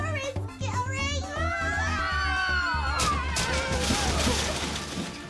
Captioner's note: animals start screaming